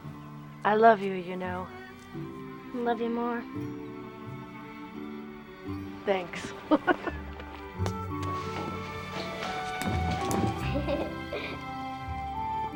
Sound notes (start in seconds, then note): 6.4 laughs; 10.5 giggles